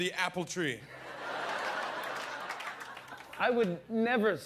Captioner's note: laughter